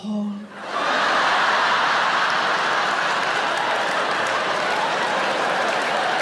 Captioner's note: audience laughing and applauding